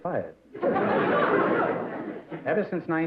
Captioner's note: laughter